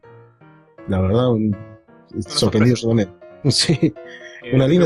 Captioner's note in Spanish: risas